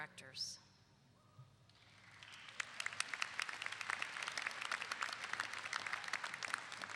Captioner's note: clapping